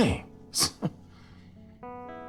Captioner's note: chuckling